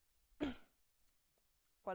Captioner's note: soft cough